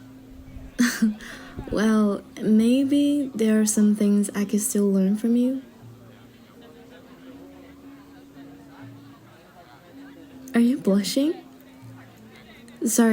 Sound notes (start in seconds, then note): 0.8 chuckles/Mild Flirt